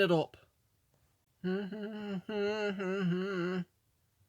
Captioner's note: humming